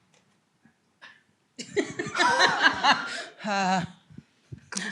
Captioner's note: laughter